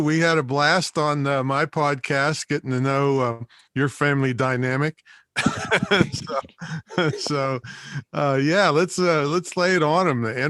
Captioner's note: laughs